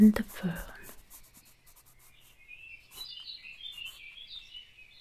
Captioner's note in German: Zeichengeräusche und Vogelgesang